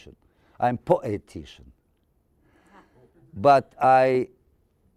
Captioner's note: audience chuckling